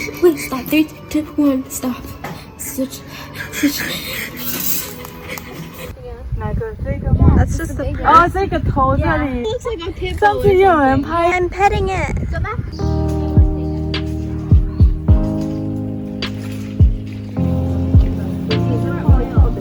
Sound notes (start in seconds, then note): 3.0 breath; 3.1 laughing; 3.6 determined inhale